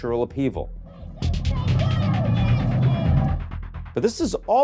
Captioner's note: person shouting